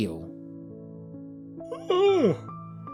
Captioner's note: yawn